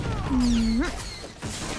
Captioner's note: gunshots